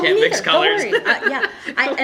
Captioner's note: laughing